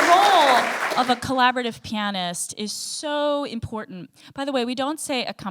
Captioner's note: audience applause